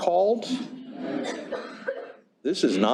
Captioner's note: laughter